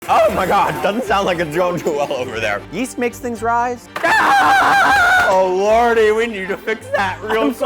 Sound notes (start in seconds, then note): 4.0 screams